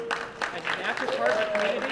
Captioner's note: applause